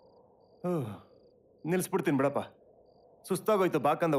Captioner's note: sighs